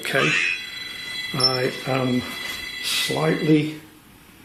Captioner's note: beeping